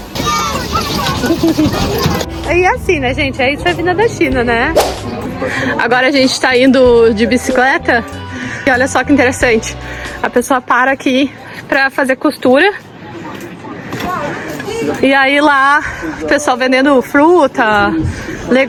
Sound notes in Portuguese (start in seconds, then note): 5.9 risadas